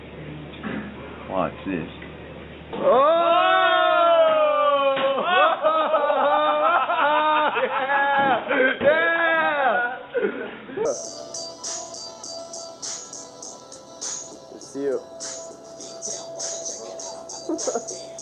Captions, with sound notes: Watch this. Oh! - Oh! (soldiers laughing and cheering) (upbeat hip hop music)